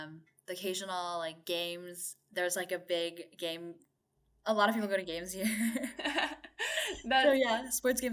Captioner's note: chuckle